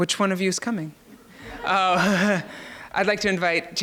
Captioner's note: audience laughs